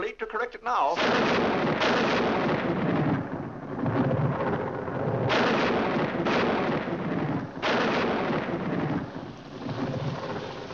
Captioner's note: loud thunder; rain falling